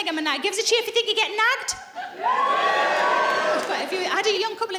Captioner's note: laughing